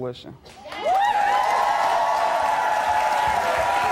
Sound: audience cheers

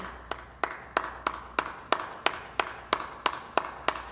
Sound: clapping

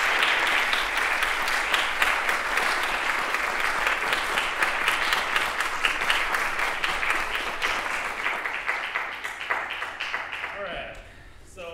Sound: applause

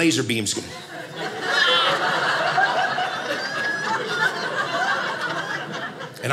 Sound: audience laughing

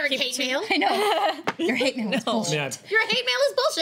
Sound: laughs

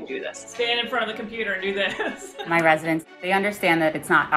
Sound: laughs

